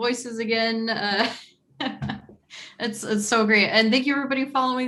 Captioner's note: laughing